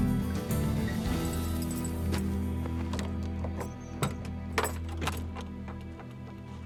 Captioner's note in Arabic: خشخشة المفاتيح، فتح القفل